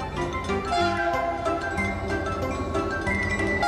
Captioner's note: train hoots